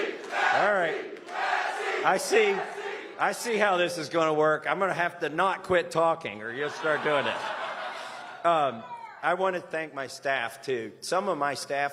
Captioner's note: chanting "massie!"